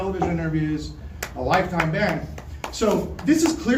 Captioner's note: someone starts clapping